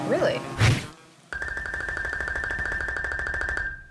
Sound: tinkling

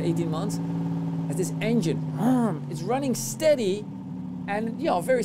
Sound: engine rumbling

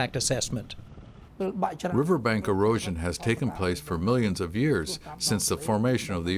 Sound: through translator

